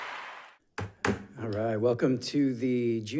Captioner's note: gavel clacks